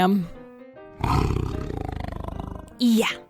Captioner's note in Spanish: Rebecca gruñe